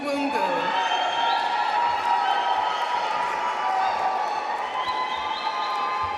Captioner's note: audience cheering and applauding